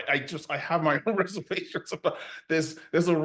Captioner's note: laughs